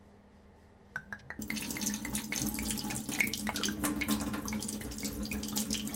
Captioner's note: pouring liquor gurgles